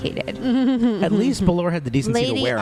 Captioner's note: chuckles